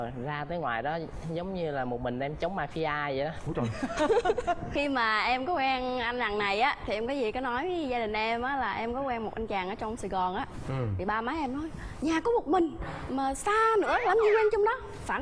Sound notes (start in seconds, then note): 4.2 laughing